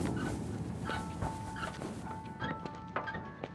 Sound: creaking

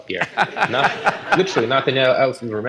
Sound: laughter

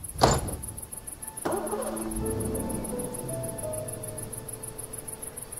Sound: car engine growls

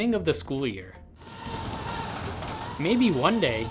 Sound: student screaming

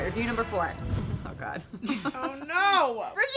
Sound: laughing

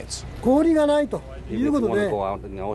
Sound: speaking japanese

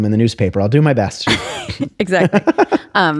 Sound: laughter

